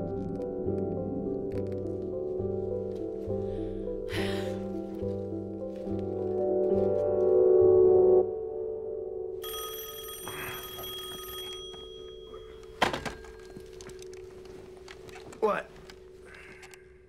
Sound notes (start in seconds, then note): 4.0 sighs; 9.4 phone rings